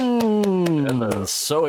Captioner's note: clapping